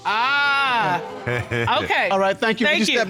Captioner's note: laughs